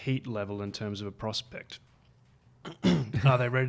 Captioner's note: clears throat